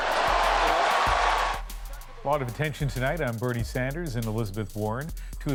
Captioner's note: cheers and Applause